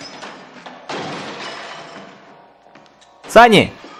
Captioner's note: glass shattering